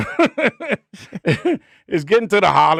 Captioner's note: laughing